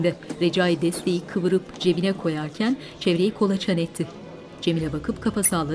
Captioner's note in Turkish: Kalabalık konuşma sesi